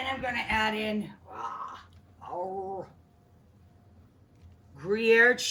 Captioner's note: Rachael grunting